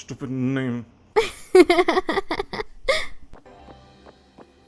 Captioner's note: laughter